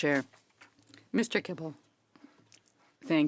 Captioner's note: speaking in French